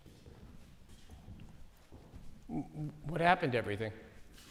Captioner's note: footsteps approaching